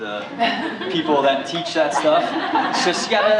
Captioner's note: laughter